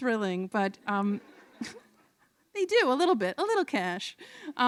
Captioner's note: laughter